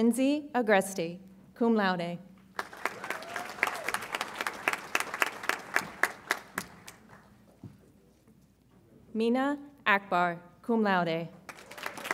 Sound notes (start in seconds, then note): 2.5 audience applauds; 11.4 audience applauds